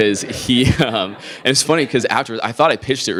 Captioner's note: laughs